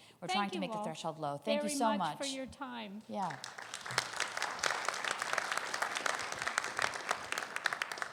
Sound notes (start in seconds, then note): 3.3 crowd applauding